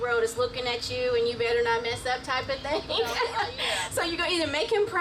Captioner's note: laughs